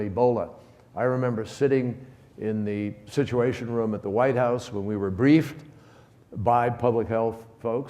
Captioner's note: none